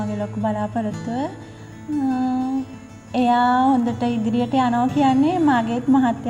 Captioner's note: speaking a foreign language